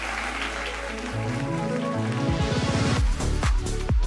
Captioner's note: applause